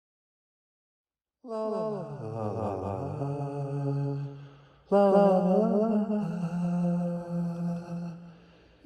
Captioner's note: humming